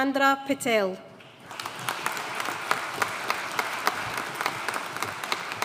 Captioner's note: audience applauding